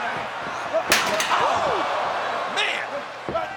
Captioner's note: chair thuds